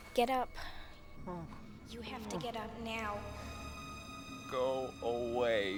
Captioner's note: moans